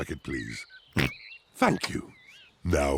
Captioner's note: oinks